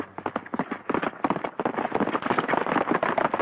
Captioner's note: hooves clomping